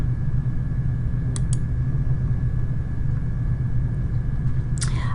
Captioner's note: mouse clicking